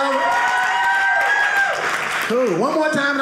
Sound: audience cheering

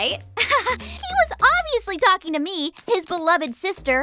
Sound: laughs

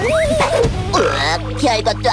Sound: burp

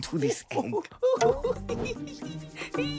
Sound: giggling

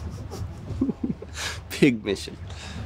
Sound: laughing

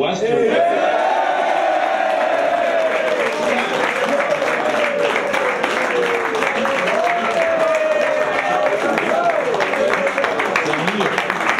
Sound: applause

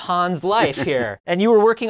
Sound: laughing

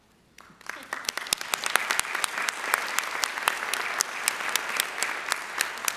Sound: audience applauding

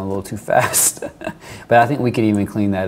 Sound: laughs

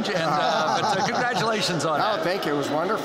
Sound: laughter

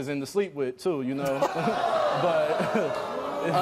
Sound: audience groans

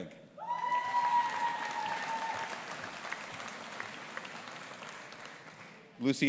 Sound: audience applauding and cheering

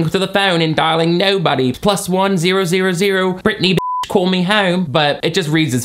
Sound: beep

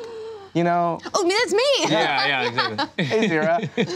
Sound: laughs

